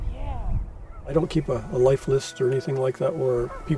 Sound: voiceover

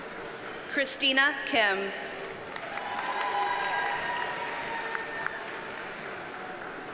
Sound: audience cheers and applauds

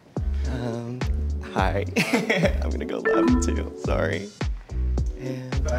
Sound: laughs

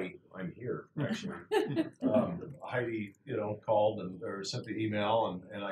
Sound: laugh

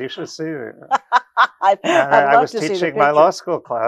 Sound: laughs

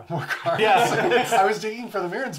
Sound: laughs

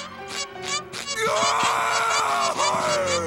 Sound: screams

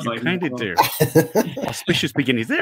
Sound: all laughing

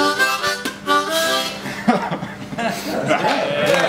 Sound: laughing; clapping

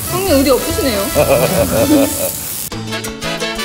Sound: laughing

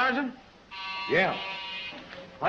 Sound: buzzer rings

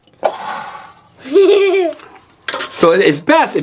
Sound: laughing

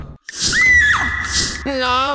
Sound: Peach screams

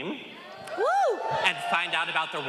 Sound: all cheering

